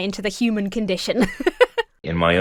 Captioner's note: laughs